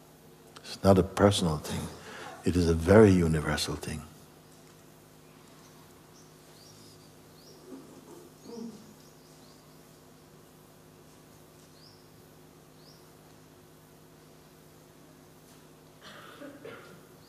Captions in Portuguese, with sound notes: Não é uma coisa pessoal, é uma coisa muito universal. [silêncio]